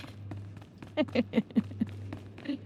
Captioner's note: laughing